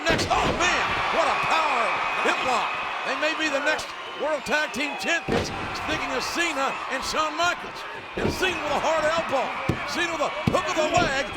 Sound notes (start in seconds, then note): 0.1 body thudding; 7.6 blow thudding